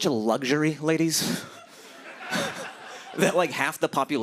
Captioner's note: laughter